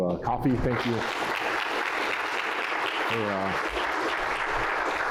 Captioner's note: applause